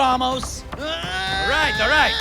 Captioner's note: shouting